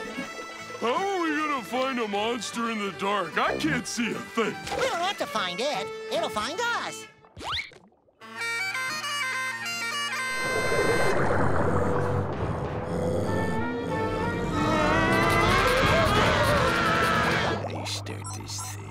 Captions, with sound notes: How are we gonna find a monster in the dark? I can't see a thing. We have to find it. It'll find us. [growling] [screaming] I start this thing?